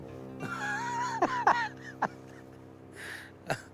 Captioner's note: exhales